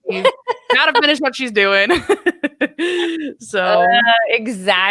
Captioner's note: laughs